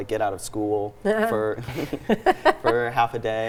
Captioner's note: group laughs